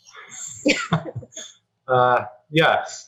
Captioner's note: laughing